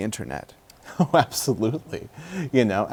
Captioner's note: laughter